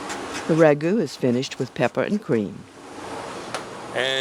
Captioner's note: voiceover